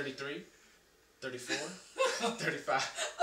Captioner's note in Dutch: Oma lacht